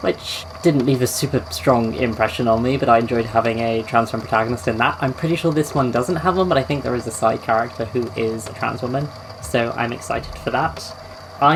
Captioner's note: tape recorder clicks off